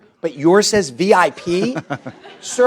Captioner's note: laughter